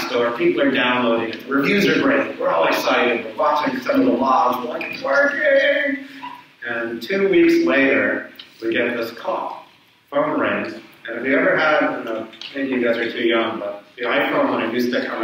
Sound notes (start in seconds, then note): 4.1 speaks away from mic